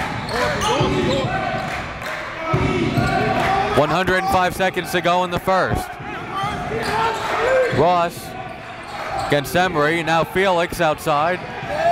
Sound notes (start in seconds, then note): 1.7 crowd